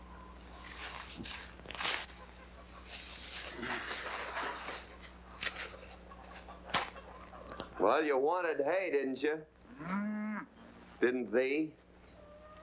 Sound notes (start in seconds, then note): 2.9 hay rustling; 9.7 cow moos